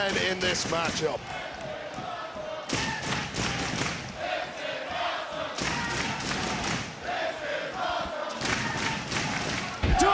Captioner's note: crowd chants "this is awesome"